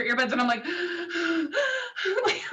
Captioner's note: hyperventalating